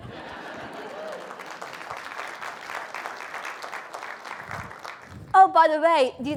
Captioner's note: applause